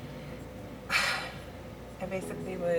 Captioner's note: deep sigh